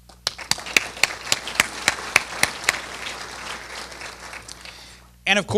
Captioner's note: applause